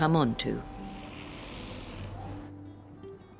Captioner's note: swan hisses